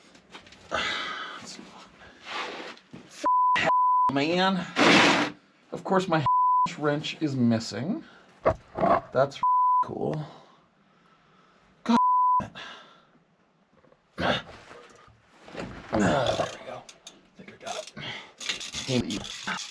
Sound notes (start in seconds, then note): 15.9 host grunting; 18.4 ratchet whirring